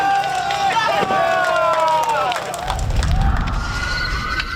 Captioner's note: firefighters shouting; firefighters applaud; firefighters cheer; sirens wailing